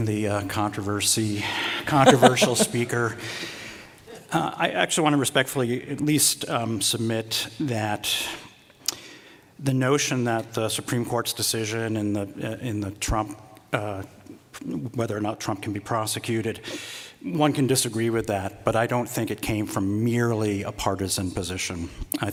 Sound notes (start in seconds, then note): 1.9 laughing